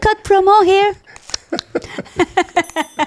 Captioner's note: laughing